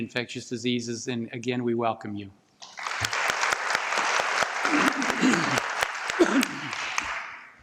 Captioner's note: applause